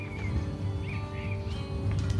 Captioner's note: birds chirping